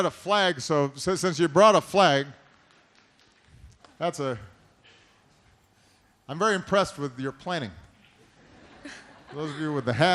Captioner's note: laughter